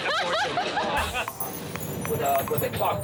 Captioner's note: laughs